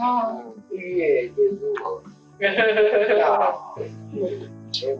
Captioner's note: laughing